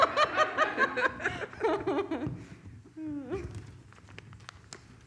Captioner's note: laugh